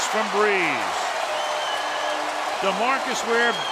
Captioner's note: cheering